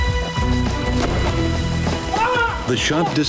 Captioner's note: gun fires